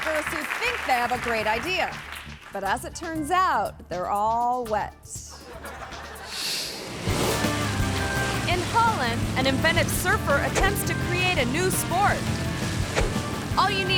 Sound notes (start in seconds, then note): 5.3 audience laughing; 6.4 graphics whooshing; 7.3 upbeat music; 12.4 upbeat music